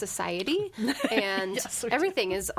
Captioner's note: laughs